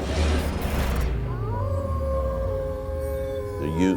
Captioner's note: howling